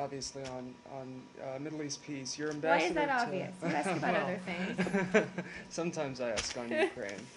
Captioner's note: laughter